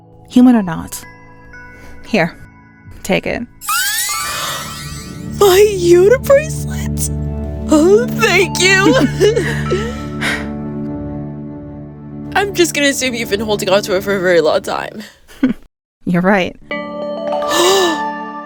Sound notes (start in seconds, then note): 8.7 Martha giggling; 17.5 gasp, glistening